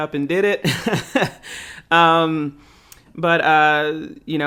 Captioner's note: laughing